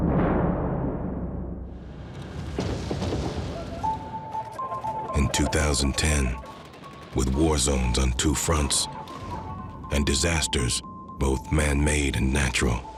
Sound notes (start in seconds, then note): 2.2 distant explosion booming